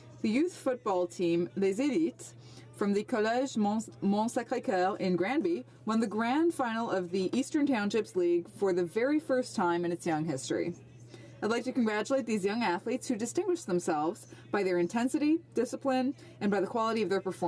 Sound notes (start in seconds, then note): 7.9 speaking French